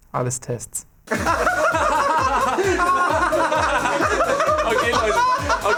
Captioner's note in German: Alle lachen frohlockend